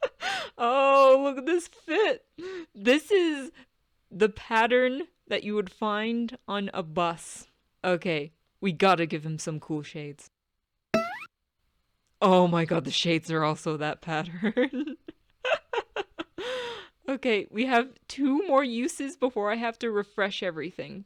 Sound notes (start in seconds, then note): 10.9 violin pluck sound effect; 15.7 chuckles